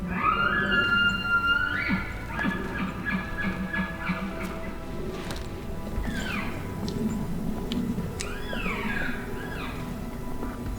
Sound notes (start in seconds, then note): 0.1 caller bugling; 6.0 caller cow calling